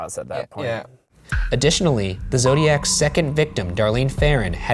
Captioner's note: voiceover; voiceover